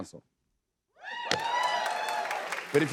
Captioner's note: cheers and applause